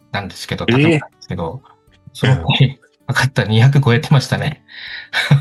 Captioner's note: laughs